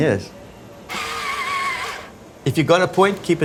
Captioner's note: pencil sharpener whirs